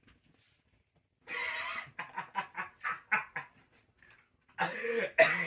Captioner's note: Silas laughing maniacally